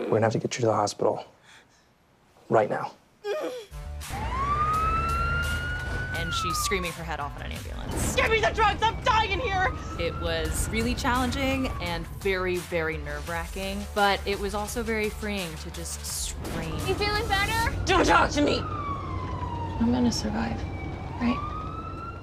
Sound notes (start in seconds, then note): 3.3 siren wails